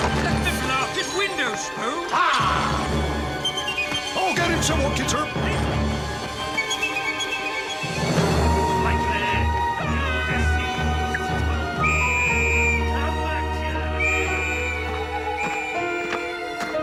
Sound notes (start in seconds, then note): 9.0 Tuppy shouts; 11.8 whistle; 14.0 owl hoots